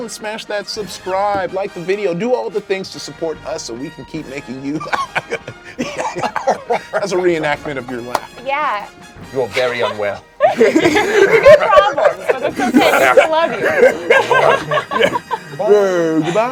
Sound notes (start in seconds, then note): 4.7 laughs; 10.4 everyone laughs